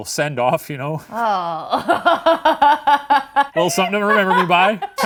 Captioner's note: laughing